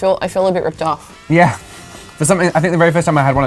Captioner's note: chuckles